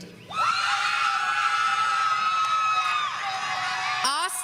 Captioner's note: audience screaming